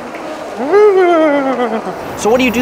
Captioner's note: moaning